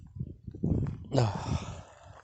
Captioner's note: sigh